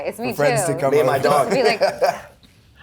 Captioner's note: laughs